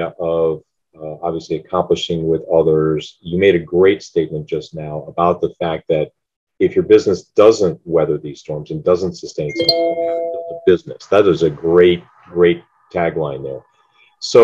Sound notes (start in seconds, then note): 9.5 gadget chimes